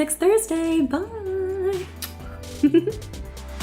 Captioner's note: blowing kiss; upbeat electronic music